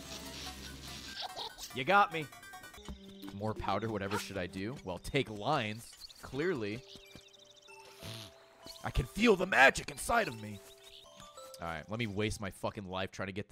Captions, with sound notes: You got me. More powder, whatever should I do? Well, take lines, clearly. (sniffs) I can feel the magic inside of me. All right, let me waste my fricking life trying to get